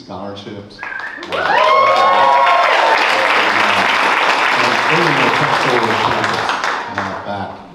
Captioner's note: clapping